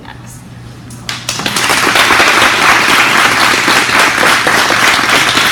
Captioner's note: audience applauds